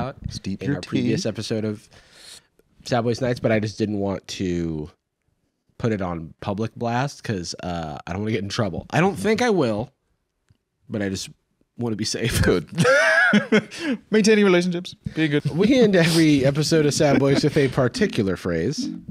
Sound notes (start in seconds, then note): 12.7 laughs